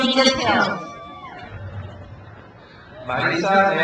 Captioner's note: crowd cheers